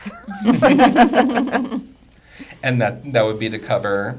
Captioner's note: group laughing